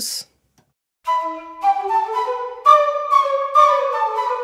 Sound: whistles blow

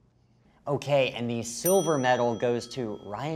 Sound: bell dings

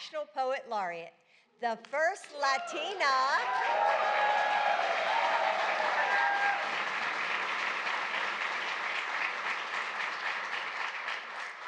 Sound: applause

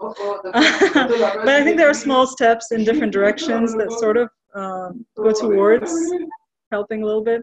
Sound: laughs

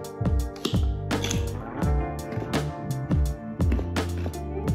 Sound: crunching

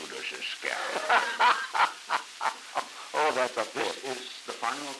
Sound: Truman, laughing

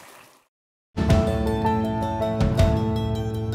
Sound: applause

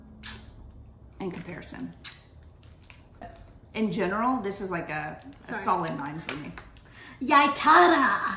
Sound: mocking chef kiss sound

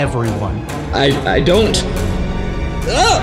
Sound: stammering

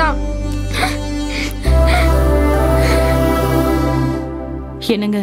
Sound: crying

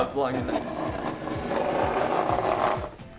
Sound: scraping

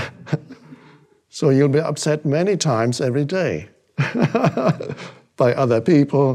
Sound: laughs

